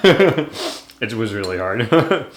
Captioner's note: laughs; laughs